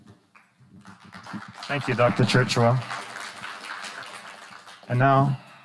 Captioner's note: audience applauding; audience applauding